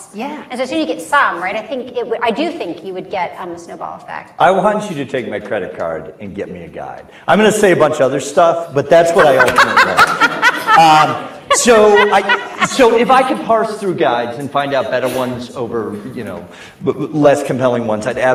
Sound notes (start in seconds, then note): 9.2 laughs